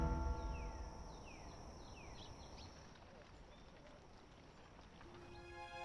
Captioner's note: birds chirping